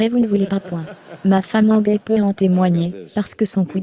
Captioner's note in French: L'audience rit